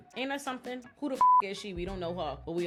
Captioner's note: beep